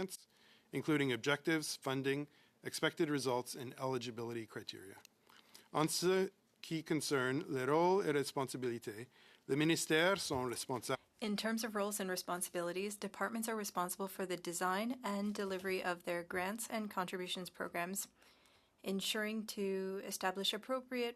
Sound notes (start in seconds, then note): 13.9 speaking French